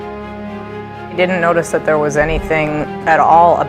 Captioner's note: voiceover